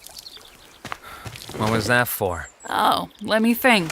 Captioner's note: sighs